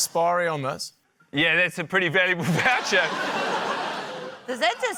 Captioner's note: laughter